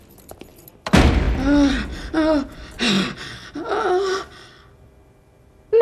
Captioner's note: gasping